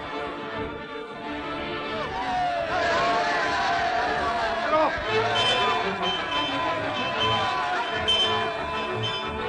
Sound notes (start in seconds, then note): 2.0 all cheering; 5.2 bell ringing